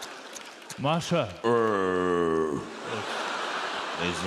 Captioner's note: slurping noise, audience laughs; Masha growls; audience laughs